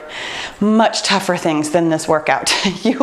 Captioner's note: laughs